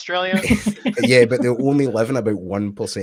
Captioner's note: laughs